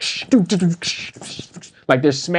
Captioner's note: humming